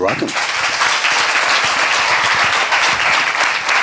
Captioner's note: applause